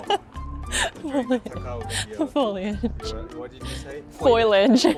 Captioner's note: laughs